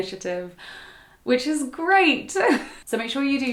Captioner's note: chuckles